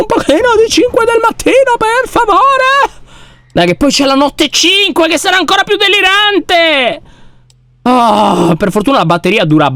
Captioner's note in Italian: sospiro esasperato